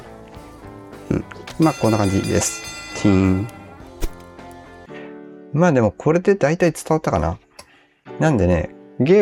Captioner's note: ding